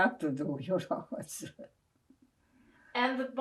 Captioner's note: laughing